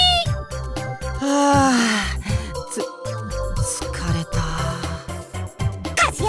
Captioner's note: sigh